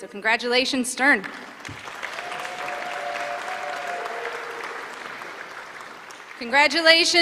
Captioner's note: applause